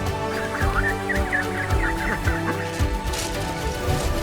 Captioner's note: cheeping sounds can be heard; Lego shuffling can be heard